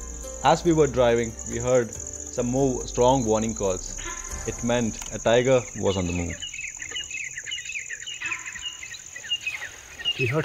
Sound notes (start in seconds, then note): 0.0 instrumental music continues; 2.6 sambar call; 6.7 birds chirping; 7.6 sambar call